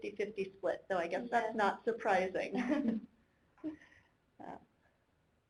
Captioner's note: chuckling